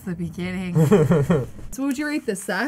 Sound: laughs

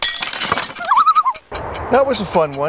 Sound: loon call

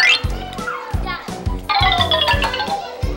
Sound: xylophone ringing; children chattering; xylophone ringing

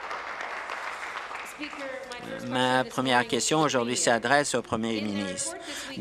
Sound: applause

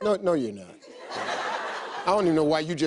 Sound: audience laughs

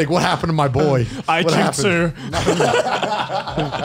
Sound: laughs

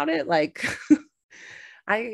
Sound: chuckles

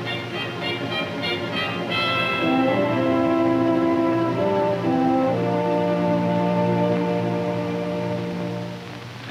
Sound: army ambulance approaches

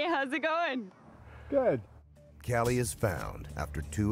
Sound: voiceover

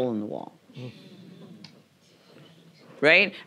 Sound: audience murmuring

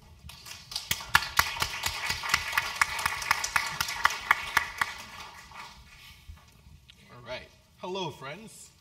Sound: applause

